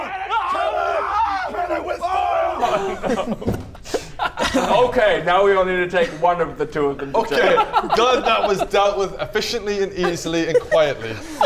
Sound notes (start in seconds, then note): 2.6 cold-hearted laughter